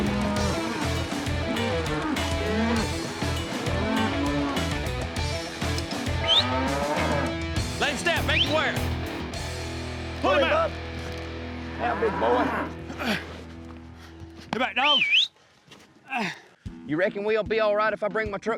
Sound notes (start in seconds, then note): 6.1 whistling; 10.8 bull grunts